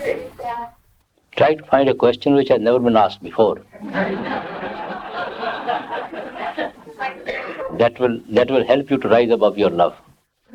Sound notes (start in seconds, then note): 6.5 laughter